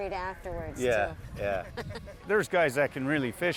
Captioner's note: laughs